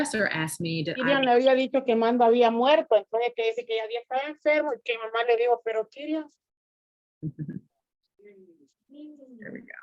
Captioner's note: speaking spanish